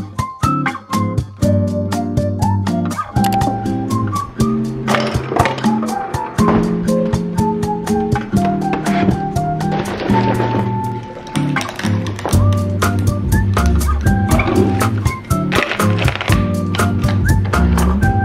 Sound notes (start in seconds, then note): 3.2 computer mouse click; 5.1 ice clinks; 9.6 milk splashing